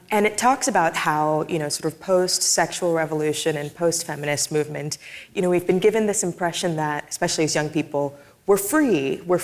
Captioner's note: none